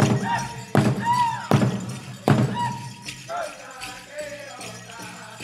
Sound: dancer chanting shouts; regalia ornaments jingling

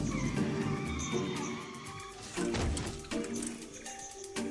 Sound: bike skids and crashes

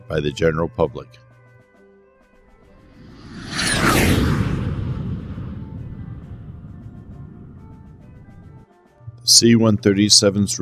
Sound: jet Whoosh Sounds

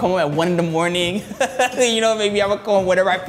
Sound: laughs

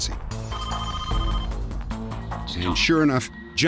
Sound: phone ringing

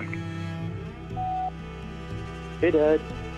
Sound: phone beeping

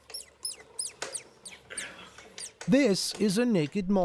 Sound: mole rat squeaking

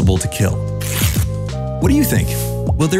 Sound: ripping paper

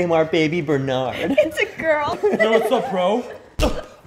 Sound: both giggle

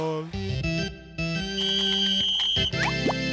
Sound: whistling

